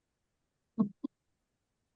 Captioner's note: no audio in video; chuckles